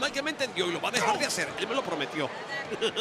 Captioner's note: laugh